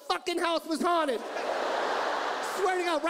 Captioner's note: audience laughs